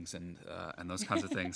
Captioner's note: laughter